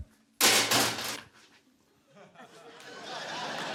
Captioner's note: shovel clangs; laughter